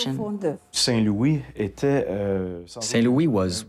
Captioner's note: speaking in foreign language